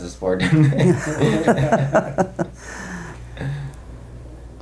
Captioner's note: all laugh